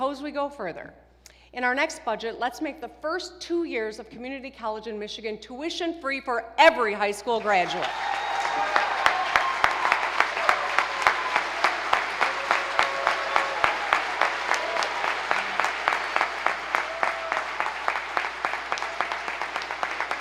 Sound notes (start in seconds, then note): 9.2 applause